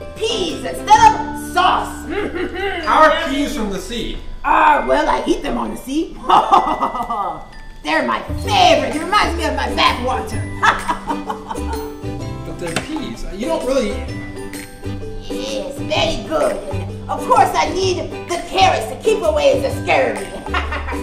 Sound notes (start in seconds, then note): 3.2 voiceover; 6.2 Hook laughs; 10.6 Hook laughs; 12.7 voiceover